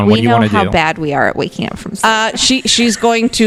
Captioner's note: laughs